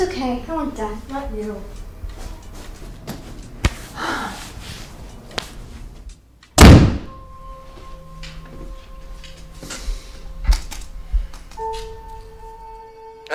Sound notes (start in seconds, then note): 3.9 Kristin sighs; 4.7 Amanda slams door; 10.9 keyboard clattering